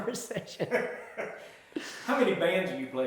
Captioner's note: both laugh